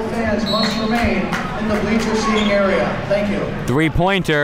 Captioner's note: whistle blows